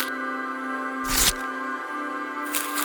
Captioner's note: rustling sound; rustling sound